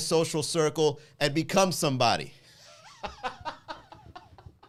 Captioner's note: laughs